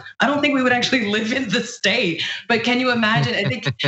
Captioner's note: laugh